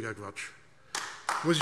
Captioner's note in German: Beifall AfD